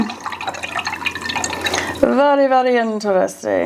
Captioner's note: water splashing